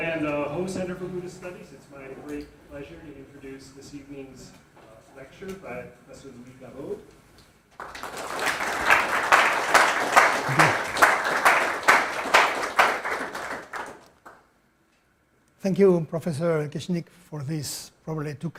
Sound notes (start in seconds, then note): 7.7 audience applauding